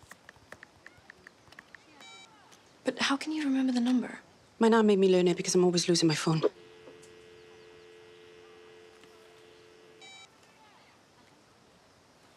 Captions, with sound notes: [Keyboard clacks] But how can you remember the number? My nan made me learn it because I'm always losing my phone. [Dial tone]